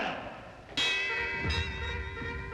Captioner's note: bells tolling